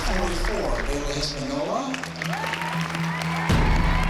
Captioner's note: applause and cheering